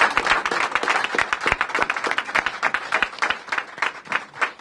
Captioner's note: applause